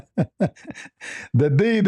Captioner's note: ketawa